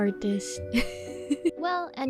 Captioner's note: laughs